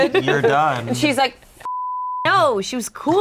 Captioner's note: beep